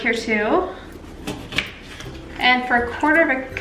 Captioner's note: chopping